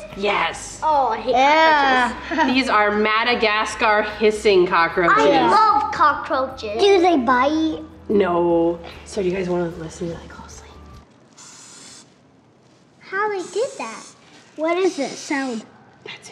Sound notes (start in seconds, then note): 11.4 hissing